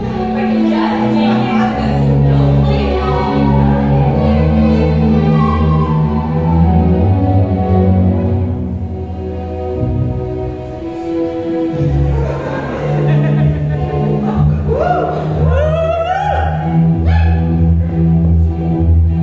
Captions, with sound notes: If I can just make it to the Snowflake I'll be fine. oh... (Audience laughs) (Audience cheers)